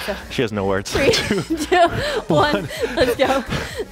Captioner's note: laughs